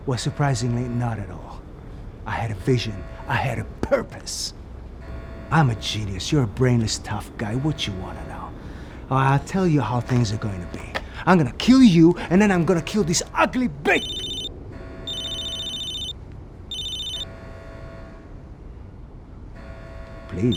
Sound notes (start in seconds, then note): 14.1 cellphone ringing; 16.7 alarm blaring